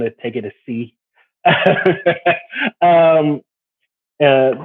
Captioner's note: laughs